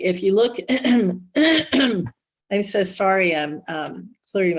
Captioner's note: clears throat